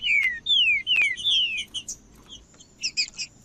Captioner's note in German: trinca ferro cantando